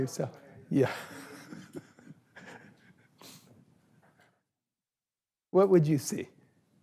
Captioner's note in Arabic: ضحكة مكتومة